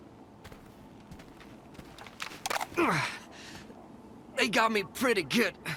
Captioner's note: footsteps thudding